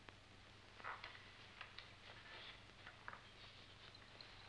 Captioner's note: none